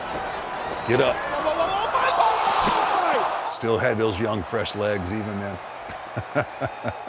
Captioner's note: laugh